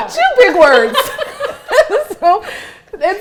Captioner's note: laughs